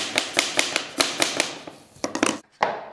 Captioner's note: knock